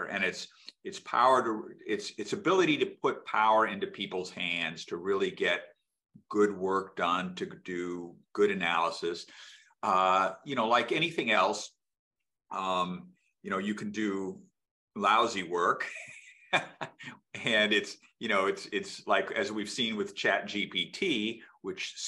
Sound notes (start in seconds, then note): 15.8 laughs